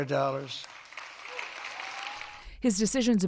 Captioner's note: cheering